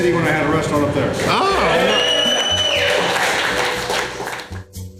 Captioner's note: crowd cheering